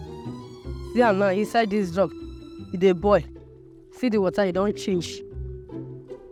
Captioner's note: speaking in foreign language